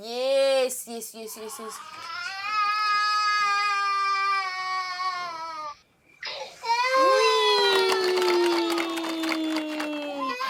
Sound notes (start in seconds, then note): 1.7 baby crying